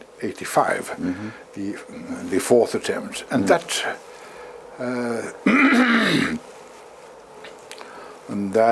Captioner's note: cough